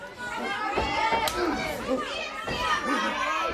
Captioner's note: crowd chatter